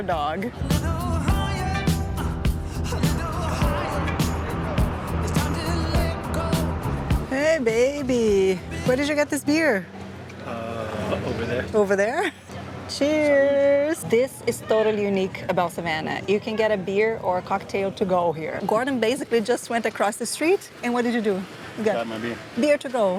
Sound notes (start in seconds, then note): 13.3 in Portuguese